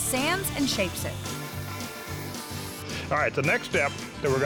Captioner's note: grinding, sawing sound